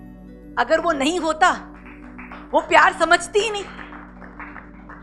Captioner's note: audience claps